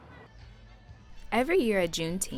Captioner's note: loud music playing; muffled background chatter